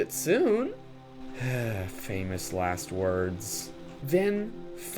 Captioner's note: sigh